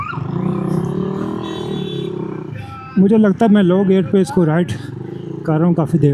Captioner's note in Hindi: कराहने की आवाज़